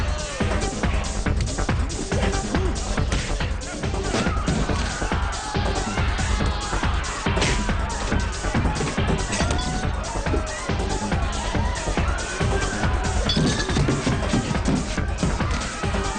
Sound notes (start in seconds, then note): 4.4 people scream and shout in the background; 9.5 glass breaks and shatters; 11.5 people scream and shout in the background